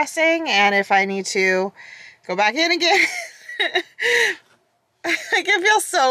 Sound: laughs

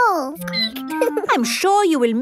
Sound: squeaking

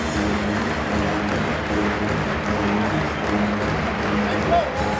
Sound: audience applause

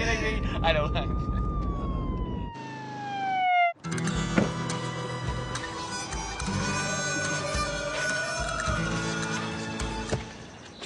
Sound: sirens

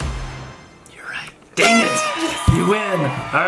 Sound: horn toots

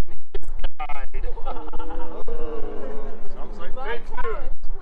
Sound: audience: Ooooo

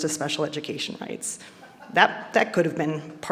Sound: audience laughing

